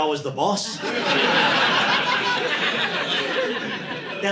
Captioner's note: audience laughing